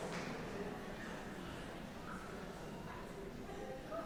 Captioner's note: audience chattering